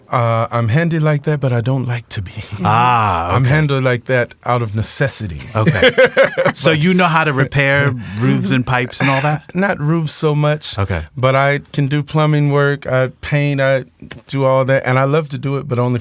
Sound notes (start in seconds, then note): 5.5 laughs